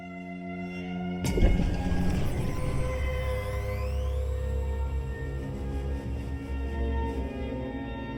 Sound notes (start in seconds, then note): 1.6 electricity buzzing